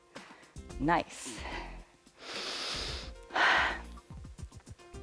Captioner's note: inhales and exhales